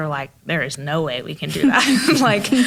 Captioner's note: laughs